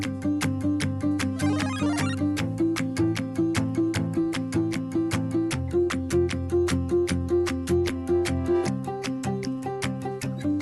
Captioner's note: applause